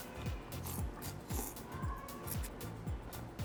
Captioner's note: slurping